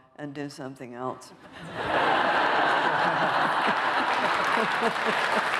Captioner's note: laughter